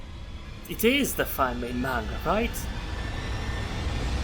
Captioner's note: slightly raised voice